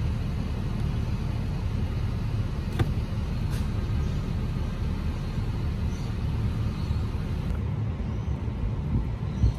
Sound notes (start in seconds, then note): 2.4 car heating system continues to hum; 2.7 light thud as shade lands on car seat